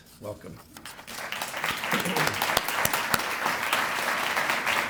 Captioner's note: applause